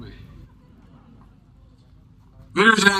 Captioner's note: laughter